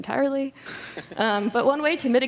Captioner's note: chuckles